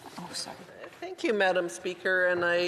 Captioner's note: speaking French